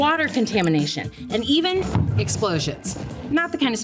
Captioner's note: explosion rumbles